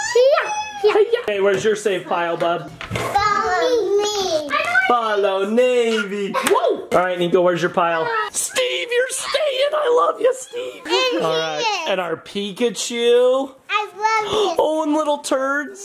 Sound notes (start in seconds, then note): 7.9 child exclaiming; 8.0 child screaming